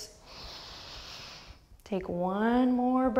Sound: deep breath

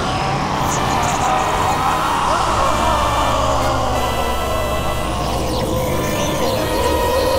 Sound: cell screams his voice changing during which

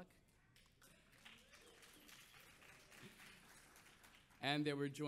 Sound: audience applauds

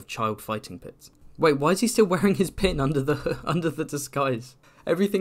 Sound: laughs

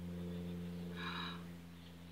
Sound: gasps

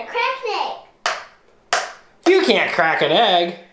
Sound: cracking

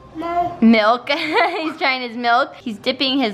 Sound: laughs

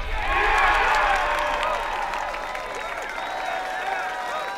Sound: cheering

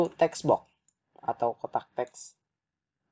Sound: in Bahasa Indonesia

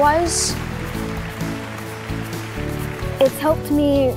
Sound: audience applauds

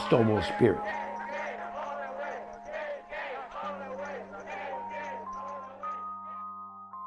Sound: crowd chanting "Gay, gay, all the way"

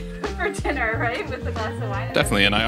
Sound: laughs

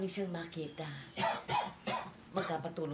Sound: Samuel coughing

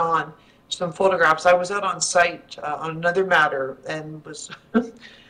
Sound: chuckles

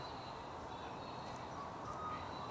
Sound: birdsong

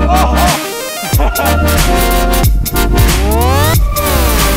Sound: laughs

